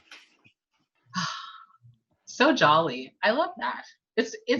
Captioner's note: sighs